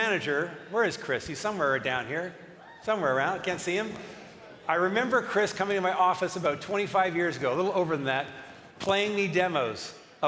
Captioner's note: cheering and applause